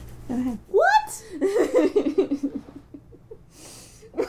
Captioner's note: laughter